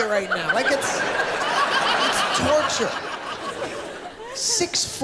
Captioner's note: laughter